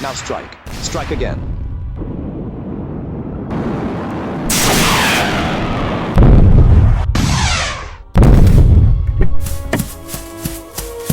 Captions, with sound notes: Now strike. Strike again. (explosion rumbling) (The Eagle whooshing) (dramatic music)